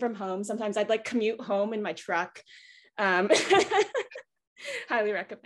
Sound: laughs

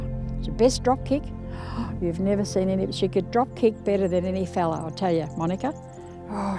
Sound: gasps

